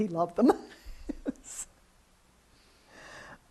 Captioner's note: laughs